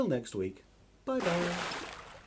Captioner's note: big Splash!